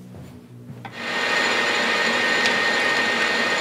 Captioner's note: loud buzzing